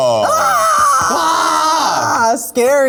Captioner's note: Priyanka squeals; squeals